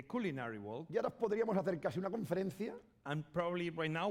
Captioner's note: speaking spanish